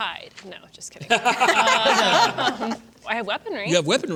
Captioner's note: laughter